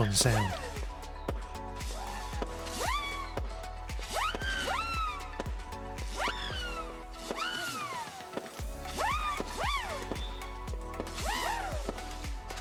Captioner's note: humming whistles